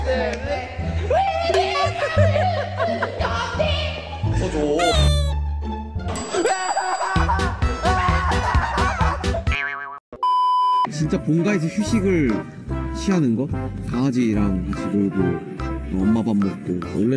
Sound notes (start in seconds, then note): 1.6 laugh